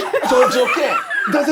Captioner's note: laughing